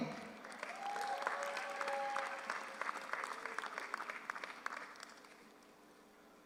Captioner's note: audience applauds; audience cheers